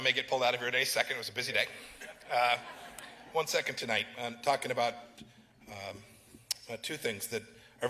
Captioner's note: laughter